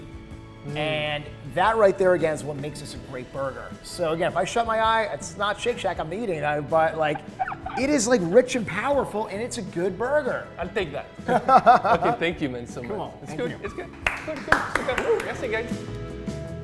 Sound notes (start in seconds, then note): 11.2 laughs; 13.8 clapping